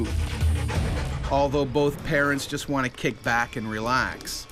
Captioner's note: voiceover